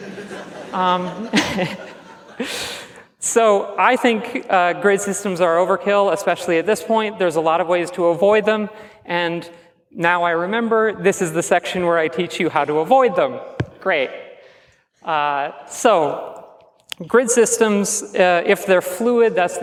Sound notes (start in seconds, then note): 0.9 chuckles; 1.0 laughs